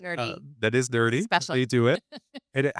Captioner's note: laughs